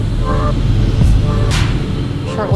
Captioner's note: engine rumbles